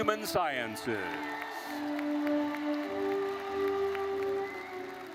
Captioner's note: audience applauding